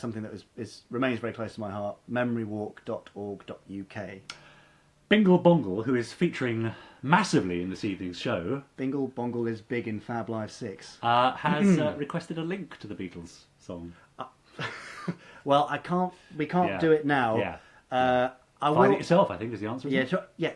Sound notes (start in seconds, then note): 14.5 laughing